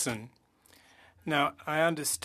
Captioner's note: speaking French